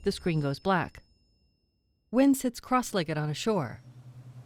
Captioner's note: bell chiming quietly